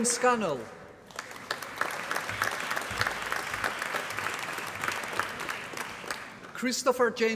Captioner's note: applause